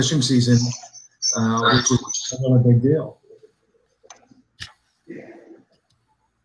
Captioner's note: audio cuts out